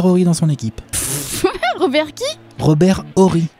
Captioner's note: chuckle